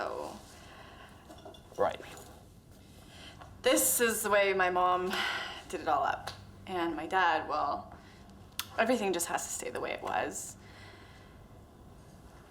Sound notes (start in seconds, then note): none